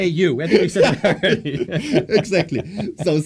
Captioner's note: laughter